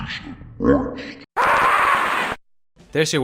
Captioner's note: demonic sounds; doom scream